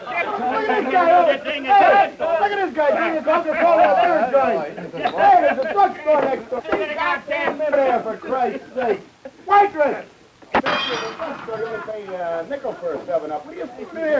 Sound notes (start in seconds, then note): 0.0 loud raucous talking; 10.5 smashing beer bottle